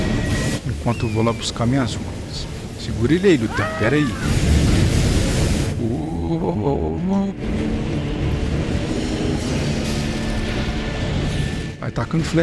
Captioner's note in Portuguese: gritos